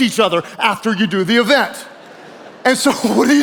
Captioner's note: audience laughing